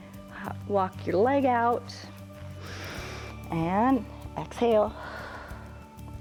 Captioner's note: exhales; inhales